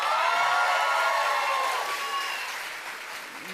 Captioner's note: cheers and applause